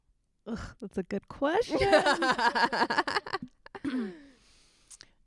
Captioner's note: laughing